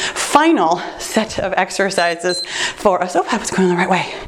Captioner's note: timer beeps